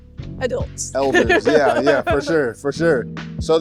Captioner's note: laughing